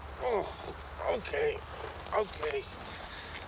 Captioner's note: grunts